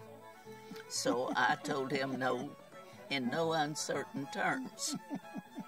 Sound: chuckles

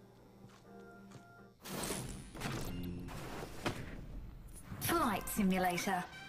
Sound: elevator music playing; zaps

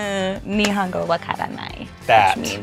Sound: speaks Japanese

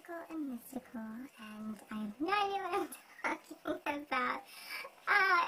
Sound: laughs

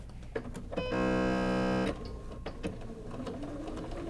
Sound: machine humming

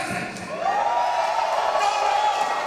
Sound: audience cheers

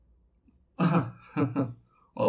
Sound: laughing

